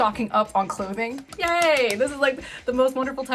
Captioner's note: claps